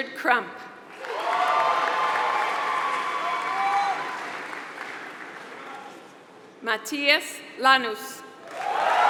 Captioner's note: applause; applause